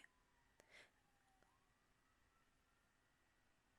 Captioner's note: sirens outside